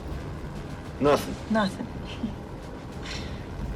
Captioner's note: laughs